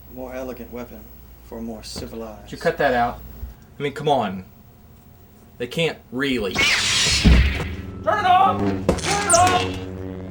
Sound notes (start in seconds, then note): 6.4 lightsaber ignites